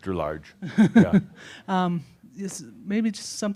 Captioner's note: she chuckles